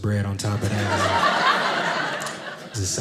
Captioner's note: audience laughing